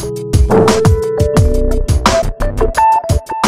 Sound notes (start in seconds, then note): 0.5 sound of force; 0.5 music Fade